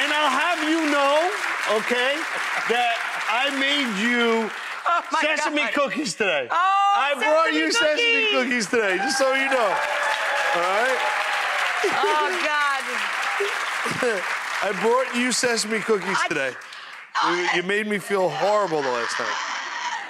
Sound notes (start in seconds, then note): 0.0 audience applauds; 9.8 audience applauds and cheers; 11.7 laughs; 12.9 audience applauding; 17.3 Rachael stammering